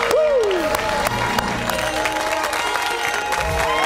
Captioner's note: cheers and applause